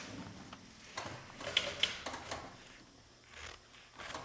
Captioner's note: sewing machine clicks in the background